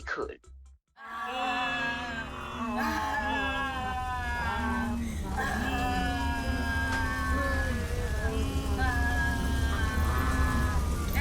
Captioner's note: screams of Terror